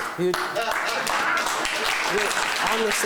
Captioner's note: clapping; laughing